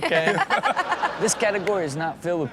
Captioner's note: Chanel laughs